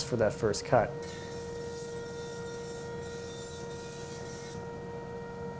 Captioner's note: machines whirring